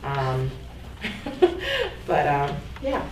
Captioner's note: giggles